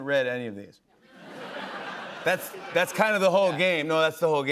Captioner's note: laughter